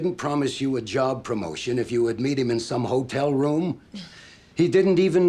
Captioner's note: scoffs